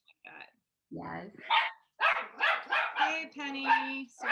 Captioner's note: dog starts barking